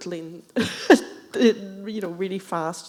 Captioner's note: chuckling